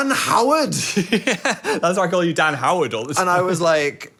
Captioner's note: laughs